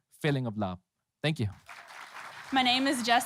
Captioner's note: applause